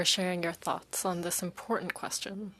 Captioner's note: speaking French